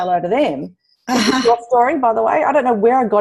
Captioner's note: laughs